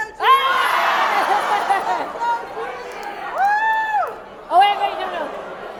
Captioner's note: cheering